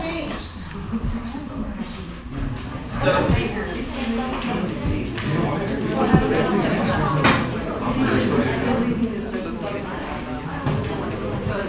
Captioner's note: background Talking